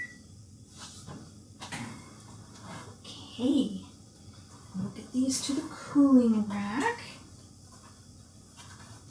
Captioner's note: beeps